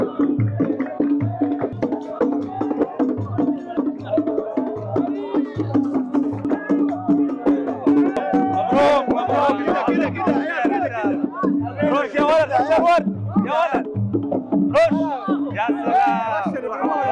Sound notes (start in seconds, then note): 11.8 Arabic